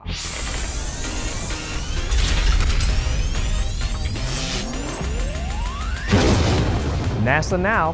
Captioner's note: sound Effects